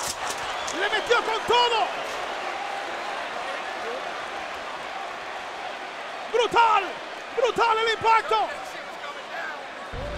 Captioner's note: applause